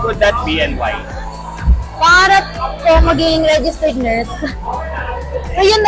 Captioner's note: chuckles